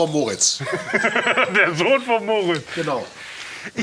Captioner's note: laughs